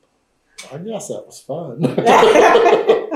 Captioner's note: laughter